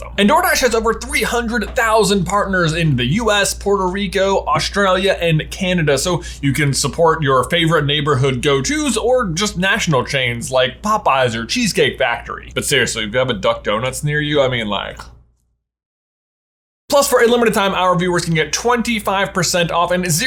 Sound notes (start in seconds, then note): none